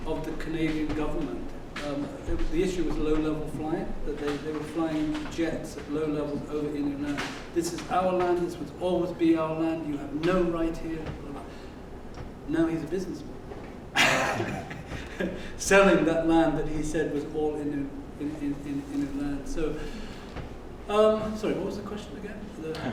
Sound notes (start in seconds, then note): 13.9 laugh